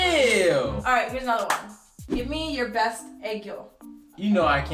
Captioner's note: comical music; claps